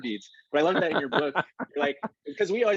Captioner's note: laughs